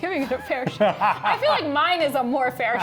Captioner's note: laughs